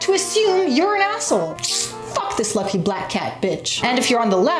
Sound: sucks teeth

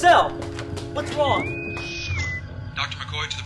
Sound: bosun whistle

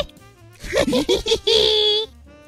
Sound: laugh

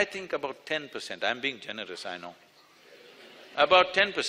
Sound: laughter

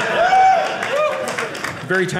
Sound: audience laughing

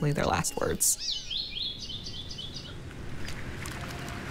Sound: birds chirping

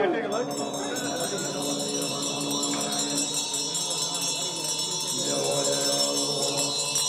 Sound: bell chiming

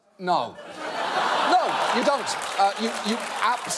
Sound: audience laughing

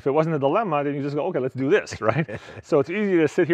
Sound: chuckles

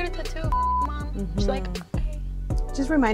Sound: beeping

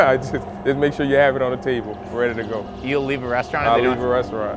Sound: laughs

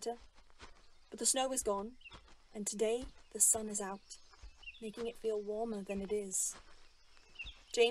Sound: birds chirping

